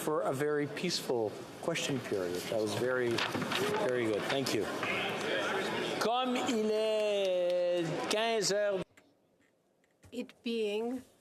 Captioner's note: some Applause